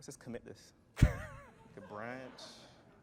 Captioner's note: laughter